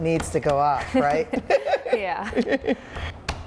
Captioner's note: laughs